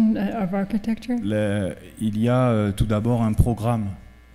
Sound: speaking french

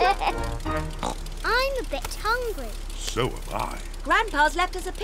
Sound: oinks

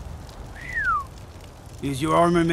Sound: whistle

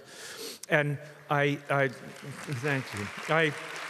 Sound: audience applauds

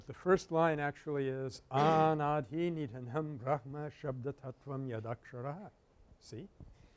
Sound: foreign language

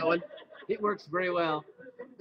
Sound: laughter

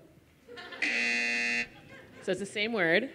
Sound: buzzer

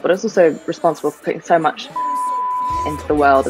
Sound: beep

